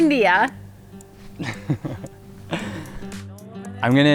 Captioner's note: laughs